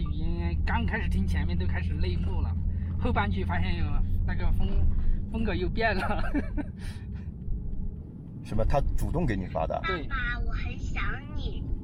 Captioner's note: speaking Chinese